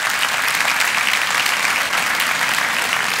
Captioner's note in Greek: θερμό χειροκρότημα